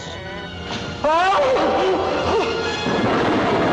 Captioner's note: shouts